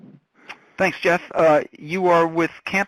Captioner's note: voiceover